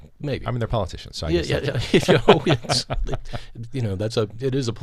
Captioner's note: laughs